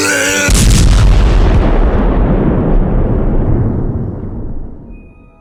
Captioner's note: bowser vomits; brobot explodes